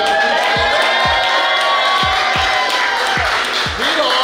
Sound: cheering & Clapping

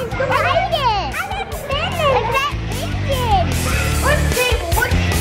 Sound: excited yelling and chattering; upbeat music and cheering

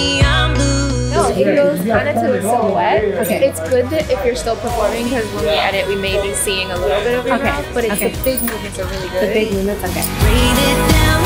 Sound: indistinct chatter

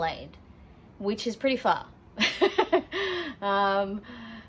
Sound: laughs

